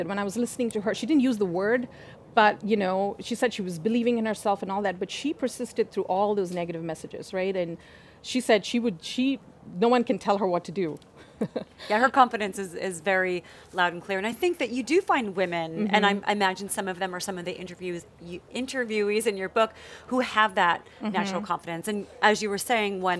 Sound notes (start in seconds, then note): 11.2 laughs